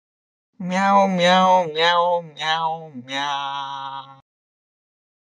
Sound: lowering of voice

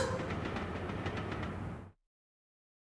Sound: train rolling down tracks

